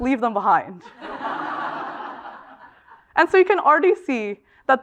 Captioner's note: laugh